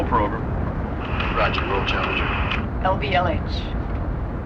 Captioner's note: man On Radio